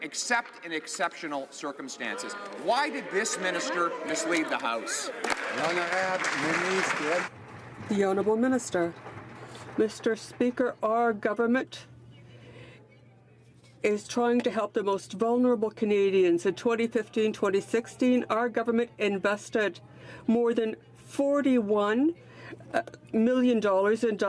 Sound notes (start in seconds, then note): 8.8 some Applause